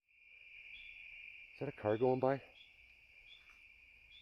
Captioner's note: crickets and peepers